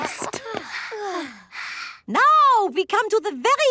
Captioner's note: panting